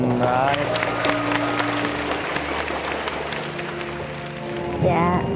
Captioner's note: clapping sounds